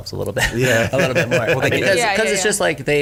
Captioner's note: everyone laughs